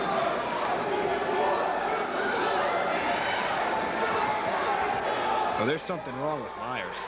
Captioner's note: crowd chatter